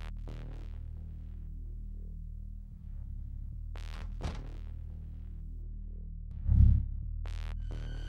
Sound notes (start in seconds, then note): 4.1 door clicking